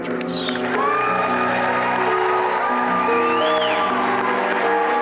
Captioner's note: applause and cheering